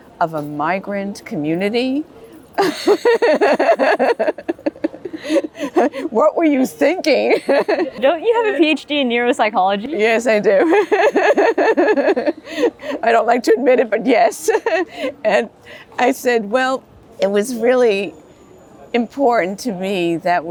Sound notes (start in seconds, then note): 2.6 laughs; 10.4 laughs